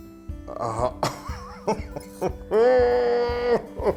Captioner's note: laughing